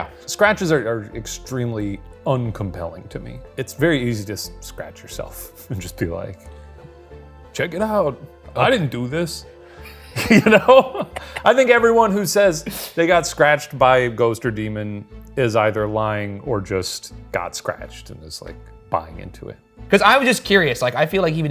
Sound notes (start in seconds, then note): 9.9 laughs